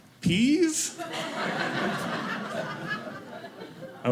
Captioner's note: audience laughing